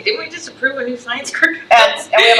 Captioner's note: laughs